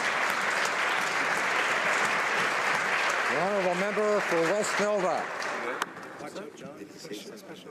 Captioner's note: applause